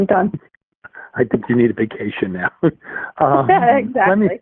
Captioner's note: chuckles; laughs